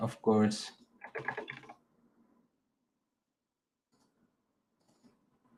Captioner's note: keyboard clacking